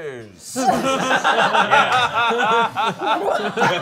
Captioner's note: all laughing